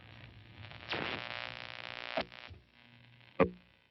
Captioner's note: static buzzing